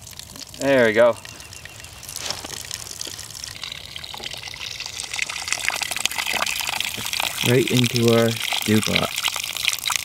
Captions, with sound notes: There we go. (water flowing steadily) Right into our stew pot.